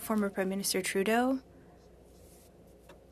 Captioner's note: speaking in French